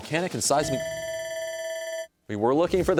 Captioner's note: bell rings